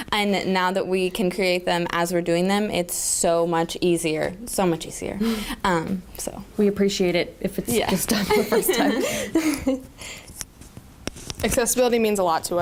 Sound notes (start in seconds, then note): 8.1 laughter